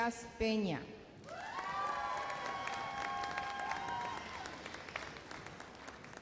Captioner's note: audience cheers and applauds